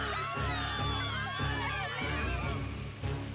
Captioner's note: crowd screaming